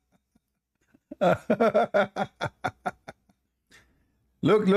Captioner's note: Ketawa